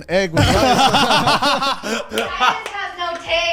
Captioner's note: all laugh